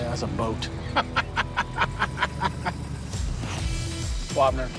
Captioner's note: Rick laughs